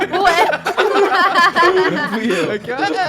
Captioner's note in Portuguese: risada